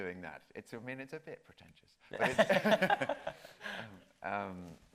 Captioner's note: both laughing